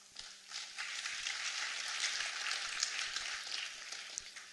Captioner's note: applause